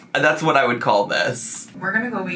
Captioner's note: none